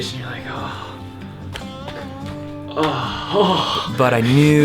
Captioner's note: groaning